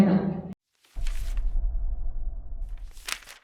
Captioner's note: soft shuffling